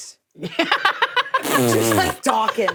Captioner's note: laughing